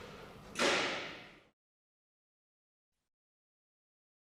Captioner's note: silence